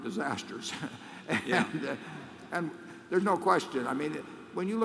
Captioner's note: laughs